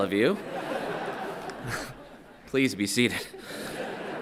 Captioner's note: everyone laughing